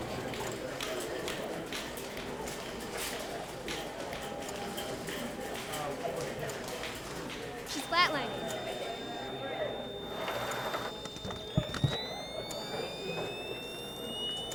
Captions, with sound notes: (prolonged beeping) - She's flatlining. (whirring)